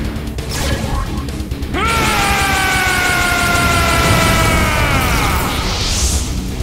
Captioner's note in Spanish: Gritos